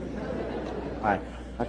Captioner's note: laughter